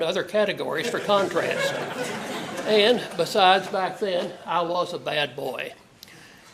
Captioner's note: laugh